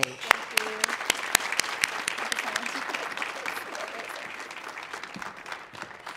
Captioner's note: audience applauding